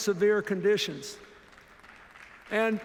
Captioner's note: applause